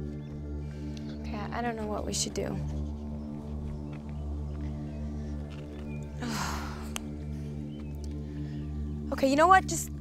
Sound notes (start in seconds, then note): 6.1 sighs